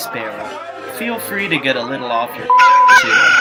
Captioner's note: cock-a-doodle-doo!